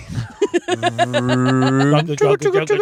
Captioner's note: laughing